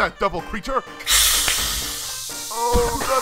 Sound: gas hissing; gas hissing, coughing

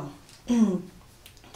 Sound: clear her throat

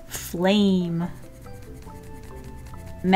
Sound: pencil scratching

